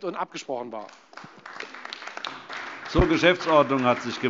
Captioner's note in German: Beifall Freie Demokraten und AfD